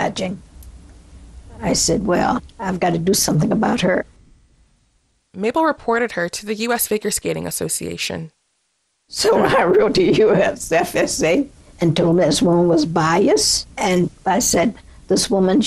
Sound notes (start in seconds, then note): 9.0 soundbite of archived recording